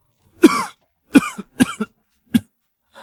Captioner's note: cough cough